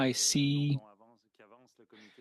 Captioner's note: speaking French